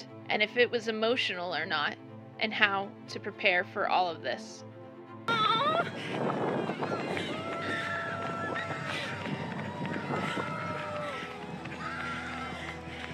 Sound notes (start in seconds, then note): 5.3 heavy breathing and panting; 8.1 crowd cheers in the background